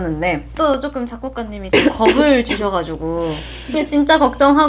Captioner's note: cough